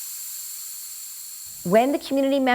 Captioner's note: canister hissing